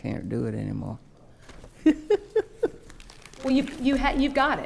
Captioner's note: laughing